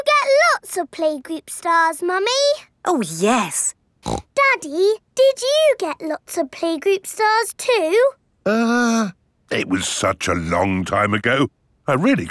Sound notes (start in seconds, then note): 4.0 snorts